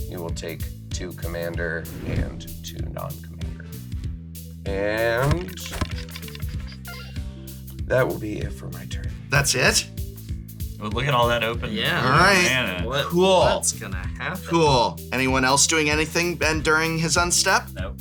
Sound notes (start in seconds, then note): 5.1 thinking metal noises